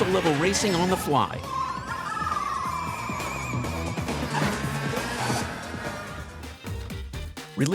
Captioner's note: Mario Kart 8 Deluxe sounds